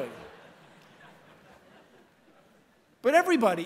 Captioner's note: laughter